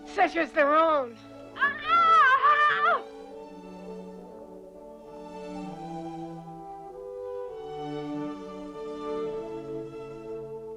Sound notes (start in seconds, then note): 1.5 Hundra screams; 3.9 elegant music